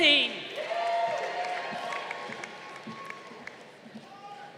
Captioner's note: crowd applauding